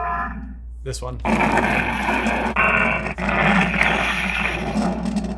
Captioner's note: Stormbreaker roaring